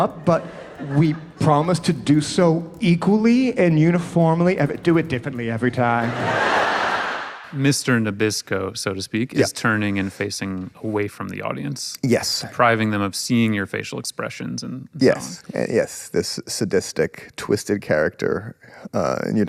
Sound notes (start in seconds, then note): 5.6 people laughing